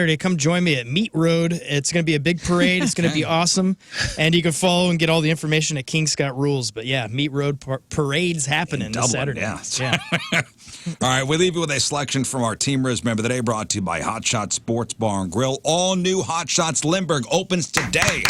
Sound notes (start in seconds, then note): 9.7 laughing